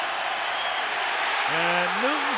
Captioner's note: cheering